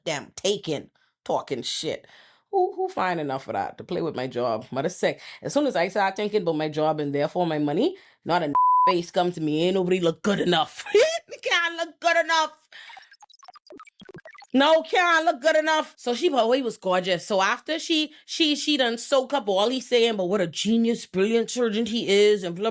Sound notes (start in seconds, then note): 8.5 beep